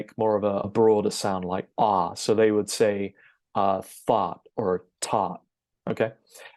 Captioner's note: amazing American accent